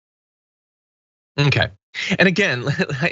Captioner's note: laugh